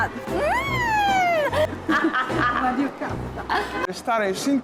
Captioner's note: laughing out loud